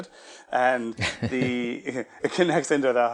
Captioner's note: laughs gently